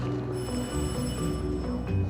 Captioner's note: doorbell rings